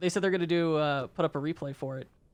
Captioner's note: none